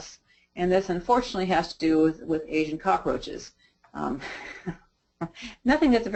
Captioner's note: chuckles